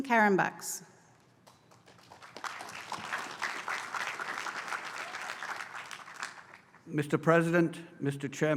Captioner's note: applause